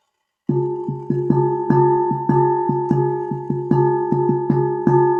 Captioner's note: begins beating rhythmically